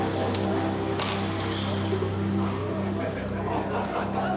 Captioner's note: coins clink